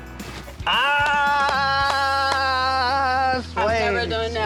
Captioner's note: applause